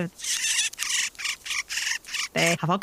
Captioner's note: Clark’s Nutcracker chittering ML